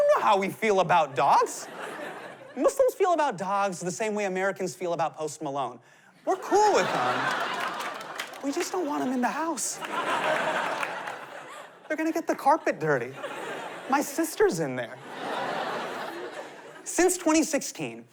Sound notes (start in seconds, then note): 9.7 laughter; 14.9 laughter